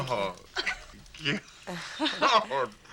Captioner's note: laughs